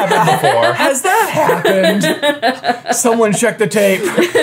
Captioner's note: laughing